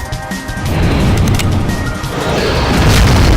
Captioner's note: gun cocking